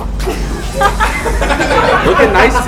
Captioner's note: laughing